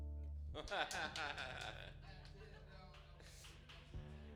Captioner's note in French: Rire